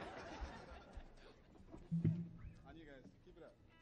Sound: audience laughing

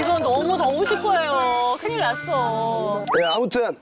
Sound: sizzling

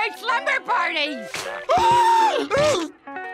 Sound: gasping

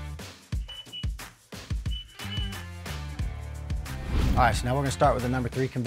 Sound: conveyor squeaks

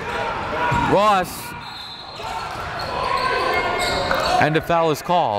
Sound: whistle blows

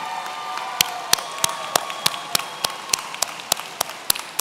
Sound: audience cheering

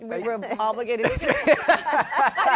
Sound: laughter

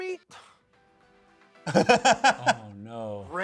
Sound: soft music; laughs

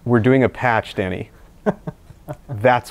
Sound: laughing

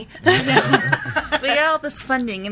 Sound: laughs

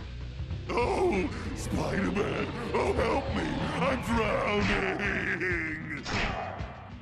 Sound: mockingly

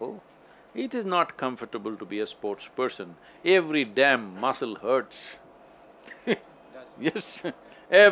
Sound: laughter

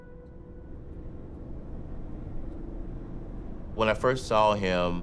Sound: car revving

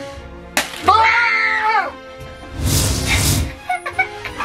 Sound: both screaming; laughter

